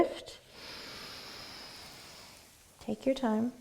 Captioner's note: inhaling